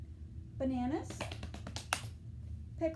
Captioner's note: clapping